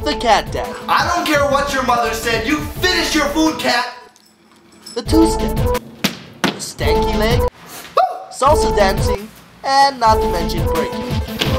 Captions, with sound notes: The Cat Daddy. I don't care what your mother said, you finish your food, cat! The 2-Step. Stanky Leg. [sniffs] Oh! Salsa Dancing. And, not to mention, Breaking.